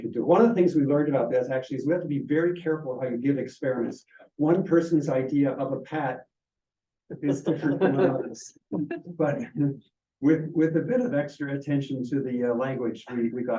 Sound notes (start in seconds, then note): 7.2 students laughing